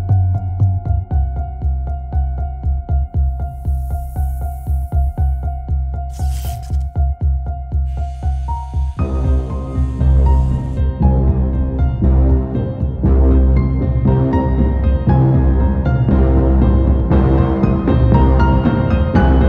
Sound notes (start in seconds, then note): 3.3 snake hisses; 6.1 razor noises; 6.1 bzzt